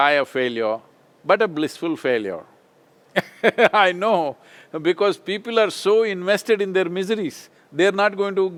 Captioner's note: laughs